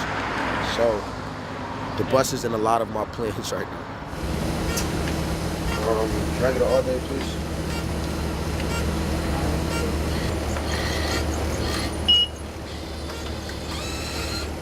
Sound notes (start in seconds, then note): 4.3 bus engine noise; 12.1 beep